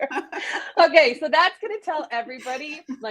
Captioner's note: laughs